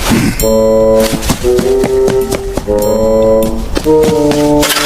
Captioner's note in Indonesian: berdehem